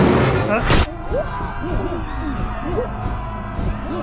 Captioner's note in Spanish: muerte y destrucción audible